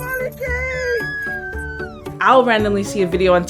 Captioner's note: squealing